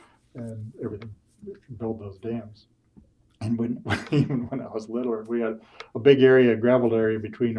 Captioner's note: laughs